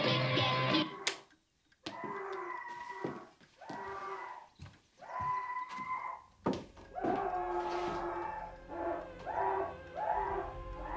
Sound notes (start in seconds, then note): 0.8 music stops; 2.0 Paul screaming; 7.0 dramatic aria playing